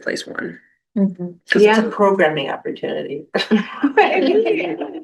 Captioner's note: laughter